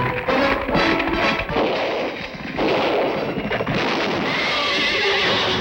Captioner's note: gunfire; neighing